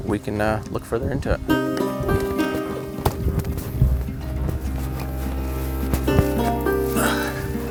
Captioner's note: light footsteps; guitar music begins; light creaking sounds; grunting